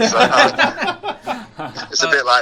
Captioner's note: laughter